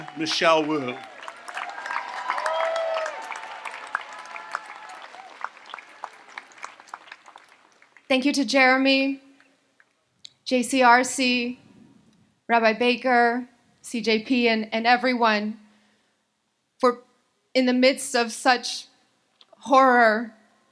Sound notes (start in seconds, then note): 2.0 audience applauds and cheers